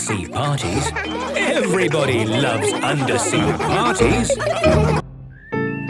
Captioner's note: laughter